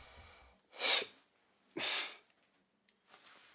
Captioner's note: Max huffing